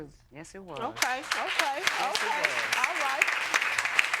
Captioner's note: audience applauding